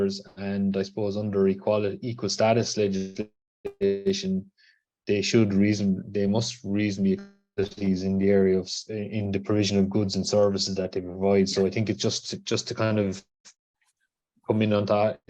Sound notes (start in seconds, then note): 7.6 glitches